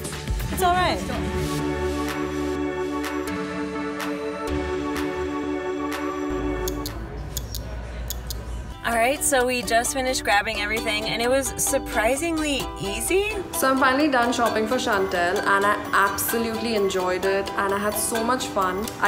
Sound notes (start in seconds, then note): 1.6 upbeat instrumental music; 7.3 clicks